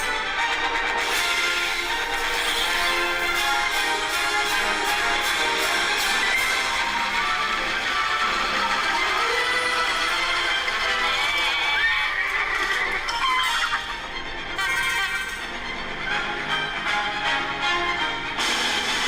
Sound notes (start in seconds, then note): 11.4 goat bleats, horse neighs, and chickens cluck; 14.6 horn honks twice